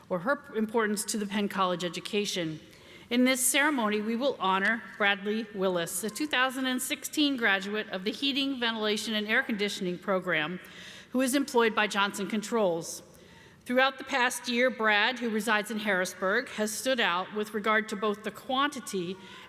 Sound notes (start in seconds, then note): none